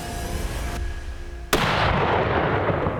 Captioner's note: gunshot